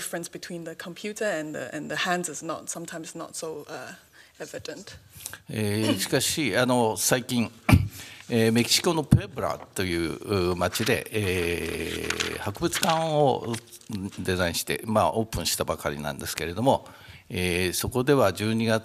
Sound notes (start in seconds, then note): 6.1 speaking japanese